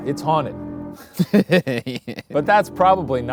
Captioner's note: laughing